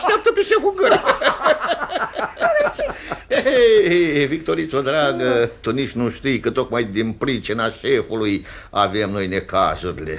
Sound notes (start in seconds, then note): 0.0 both laugh